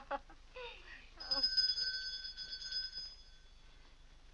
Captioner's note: Cora laughs; bell rings